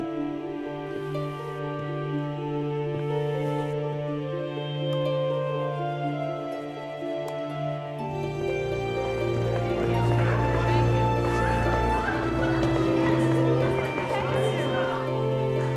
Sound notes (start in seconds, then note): 8.1 background chattering